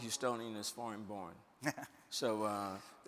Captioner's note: chuckles